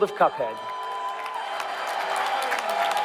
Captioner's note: audience applaud and cheer